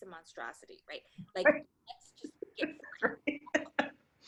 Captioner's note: laughter